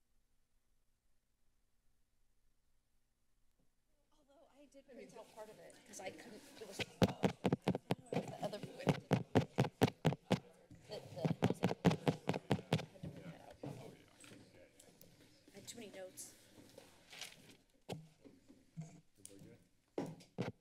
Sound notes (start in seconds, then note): 0.0 silence; 4.1 chatter; 6.8 mic tapping; 13.0 chatter; 16.4 paper rustling; 18.2 silence; 20.3 mic tapping